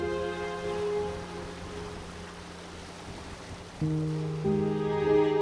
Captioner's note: gentle water rushing